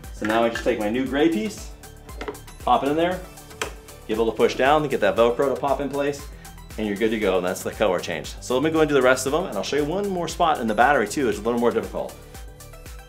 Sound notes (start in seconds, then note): 2.1 piece popping